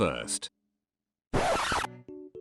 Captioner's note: record scratch